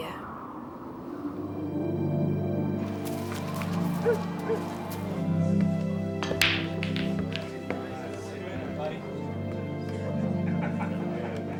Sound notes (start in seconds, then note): 1.6 slow soft music; 1.6 wind blowing; 3.6 dog barking; 6.4 people chattering; 6.4 pool balls smacking